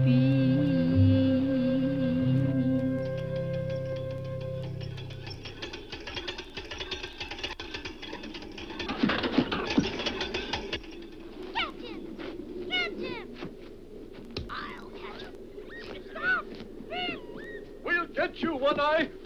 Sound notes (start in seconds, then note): 2.6 bike rattles; 8.6 Elvira crashes